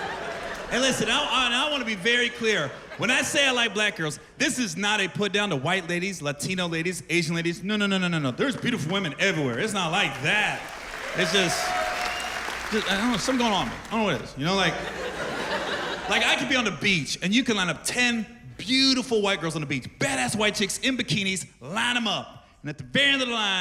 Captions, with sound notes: It was--Hey, listen, I wanna be very clear. When I say I like black girls, this is not a put down to white ladies, Latino ladies, Asian ladies. No, no, no, no, no. There is beautiful women everywhere. It's not like that. It's just-- -[cheers and applause] -Something going on with me. I dunno what it is, -you know, like-- -[laughter] like I can be on the beach and you can line up ten beautiful white girls on the beach-- badass white chicks, in bikinis, line 'em up...